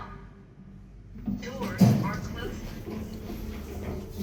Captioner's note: doors are closing